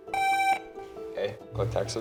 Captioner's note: buzzer buzzing